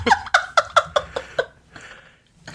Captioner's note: laughs